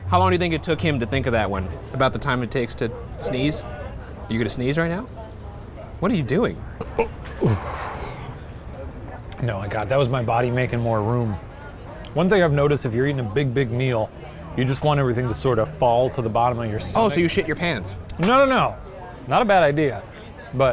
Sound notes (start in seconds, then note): 7.1 belching